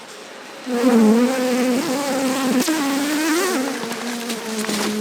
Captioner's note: bee buzzing angrily